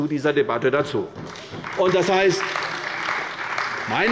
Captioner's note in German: Beifall bei der CDU